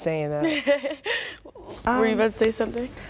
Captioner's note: chuckles